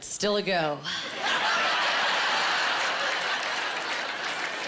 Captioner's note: laughing